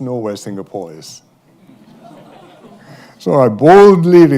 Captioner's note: laughter